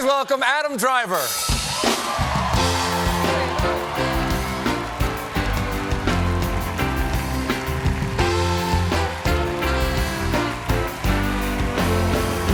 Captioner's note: band playing; cheers and applause; band playing; cheers and applause